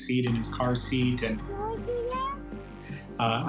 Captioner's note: child babbles